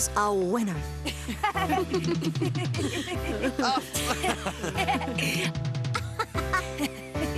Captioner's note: laughing